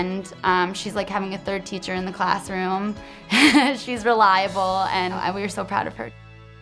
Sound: laughs

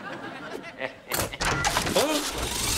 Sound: laughing

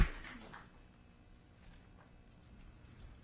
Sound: applause

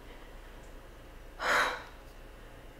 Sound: sigh

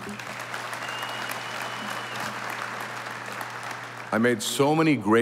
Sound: audience applauding

